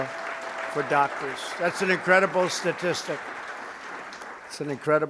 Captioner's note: applause